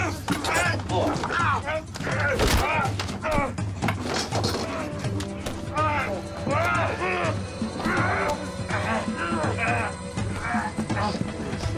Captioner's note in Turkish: Kavga Sesleri